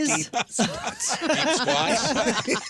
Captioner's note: laughing